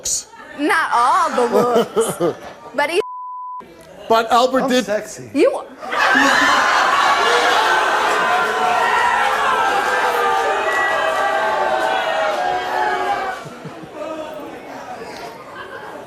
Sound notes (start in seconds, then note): 5.8 audience laughs